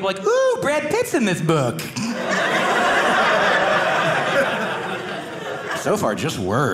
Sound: audience laughing

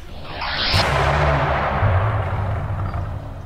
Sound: air swooshing

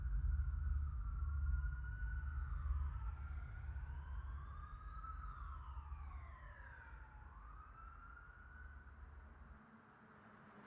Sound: sirens in the distance

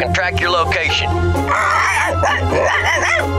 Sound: barking

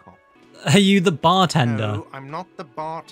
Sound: laughing

